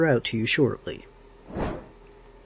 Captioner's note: woosh!